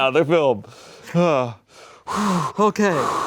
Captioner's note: sighs